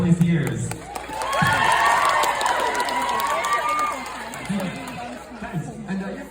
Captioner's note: audience applauds